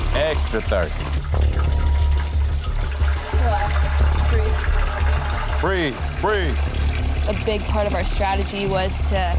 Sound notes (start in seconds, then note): 1.7 water splashing